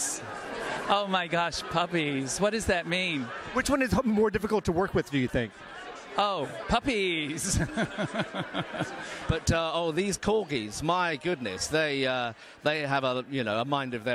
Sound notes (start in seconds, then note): 9.1 laughs